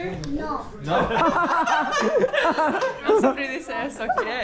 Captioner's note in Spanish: Risas